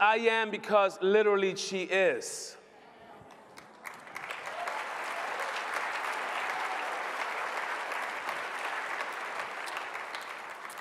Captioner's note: applause